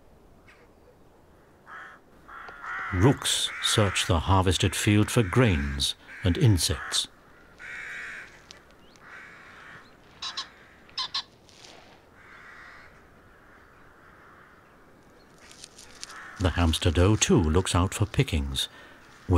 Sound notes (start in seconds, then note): 10.9 pheasant chirps